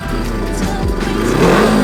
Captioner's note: engine revs